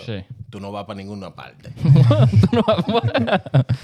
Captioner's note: speaking In Foreign Language; laughing